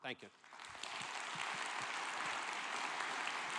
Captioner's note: applause